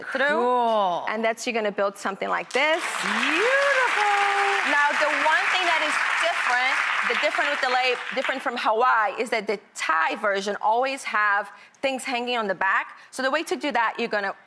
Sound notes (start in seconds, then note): 2.5 audience applause